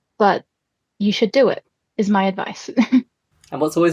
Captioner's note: laughs